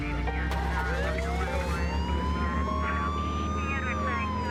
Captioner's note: siren wailing